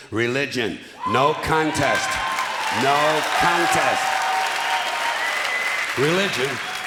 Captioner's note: clapping and cheering